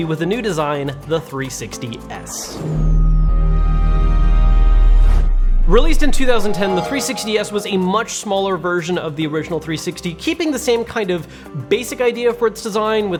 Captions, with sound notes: with a new design, the 360 S. (logo whooshing) (gentle music) Released in 2010, the 360 S was a much smaller version of the original 360, keeping the same kind of basic idea for its design,